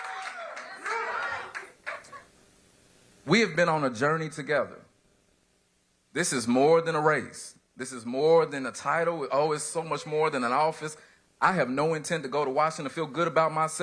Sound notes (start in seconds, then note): 0.0 applause